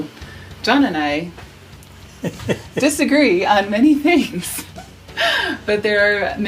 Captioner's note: laughs